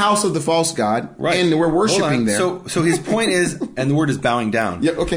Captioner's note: laughing